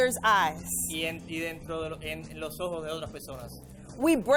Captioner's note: interpreter speaking in foreign language